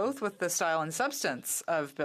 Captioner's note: speaking in French